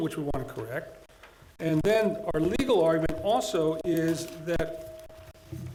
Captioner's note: none